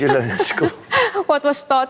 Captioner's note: laughs